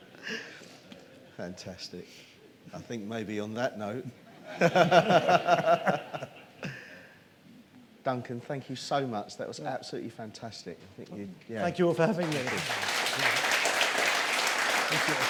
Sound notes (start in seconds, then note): 1.2 laughs; 12.2 applause